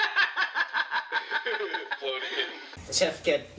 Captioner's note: Liliana laughs heartily